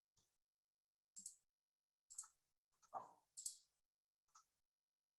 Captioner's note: mouse clicking